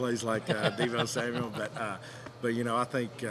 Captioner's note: laughing